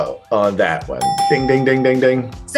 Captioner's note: dings